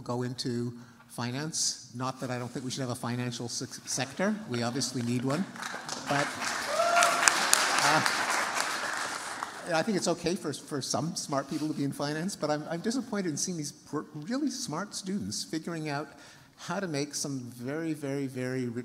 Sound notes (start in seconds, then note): 4.6 applause